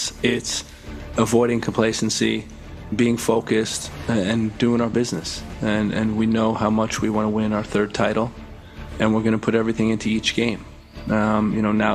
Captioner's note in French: hablando inglés